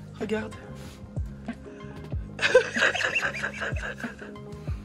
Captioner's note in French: rire